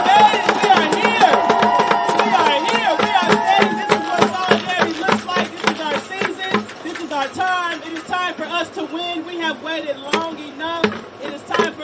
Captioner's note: cheering and applause